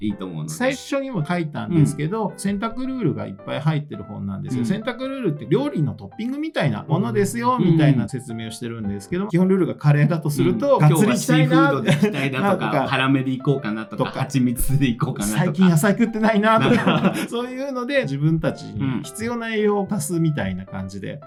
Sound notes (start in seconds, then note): 16.5 laughs